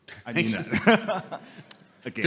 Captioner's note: laughing